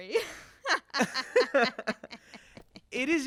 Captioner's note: laughter